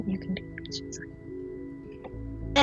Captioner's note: mom whispers